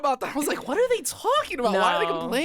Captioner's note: laughs